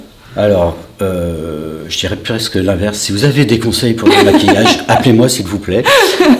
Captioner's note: laughter